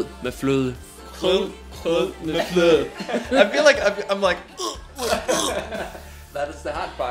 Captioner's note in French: feint de vomir